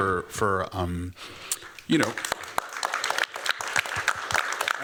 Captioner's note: applause